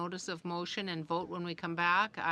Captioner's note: speaking in french